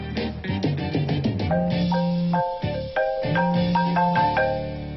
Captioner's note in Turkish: Telefon çalıyor